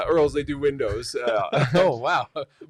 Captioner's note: laughing